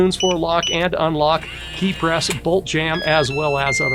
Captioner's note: beeping; motor whirring; beeping